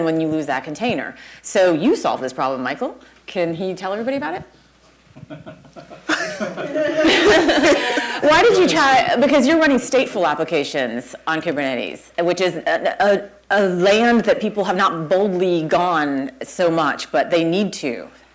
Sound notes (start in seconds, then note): 5.1 laughter